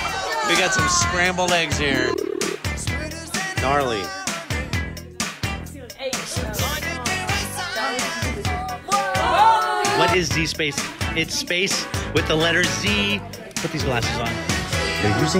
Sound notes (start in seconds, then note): 7.7 students exclaiming